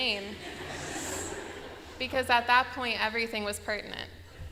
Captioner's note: laughter; laughter